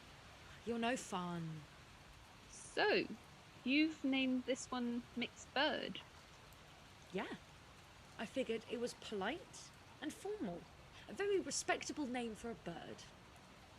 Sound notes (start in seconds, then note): none